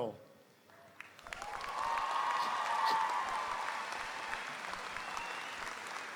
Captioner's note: audience applauding; audience cheering